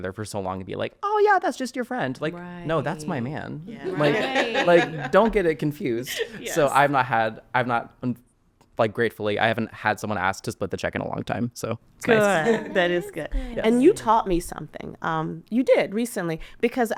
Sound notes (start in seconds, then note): 3.8 laughing